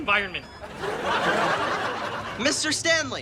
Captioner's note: audience laughs